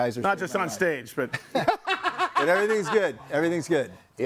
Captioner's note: laughs